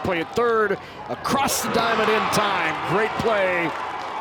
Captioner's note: crowd cheers